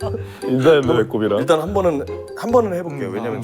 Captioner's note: leader gives a big laughter through his navel